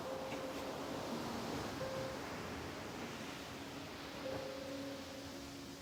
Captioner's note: water Rushing